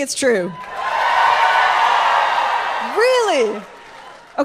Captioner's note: audience cheers